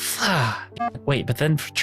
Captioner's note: sighs